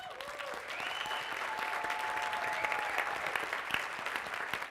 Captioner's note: applause